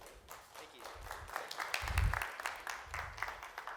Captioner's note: clapping